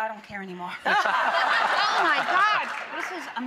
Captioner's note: audience laughing